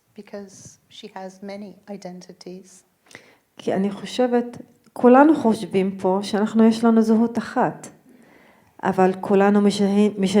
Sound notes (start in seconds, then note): 3.7 speaking in foreign language